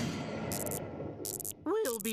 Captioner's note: buzzing